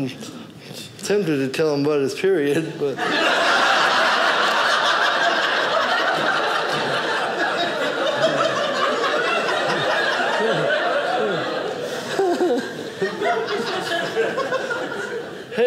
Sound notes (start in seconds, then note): 2.9 audience laughing